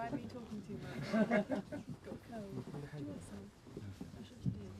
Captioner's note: everyone laughs